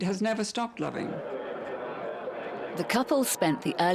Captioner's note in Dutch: mensen kletsen